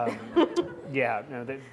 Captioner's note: laughing